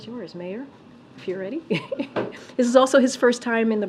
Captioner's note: laughs